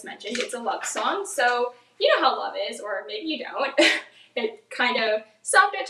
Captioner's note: laughs